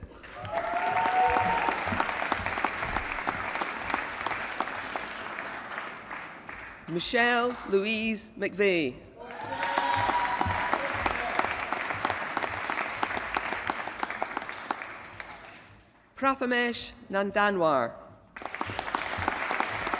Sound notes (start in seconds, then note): 0.0 applause; 9.2 applause; 18.3 applause